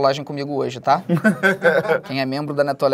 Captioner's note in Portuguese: risadas